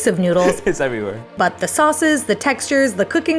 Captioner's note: laughs